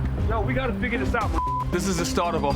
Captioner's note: beep